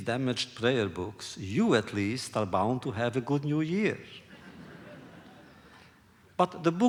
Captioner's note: laughter